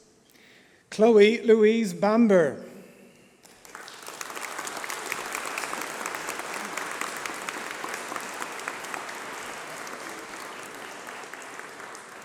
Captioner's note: applause